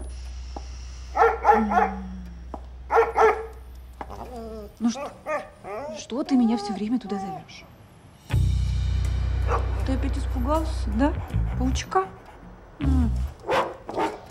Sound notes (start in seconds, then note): 1.0 dog barking